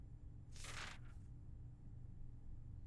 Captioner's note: papers rustling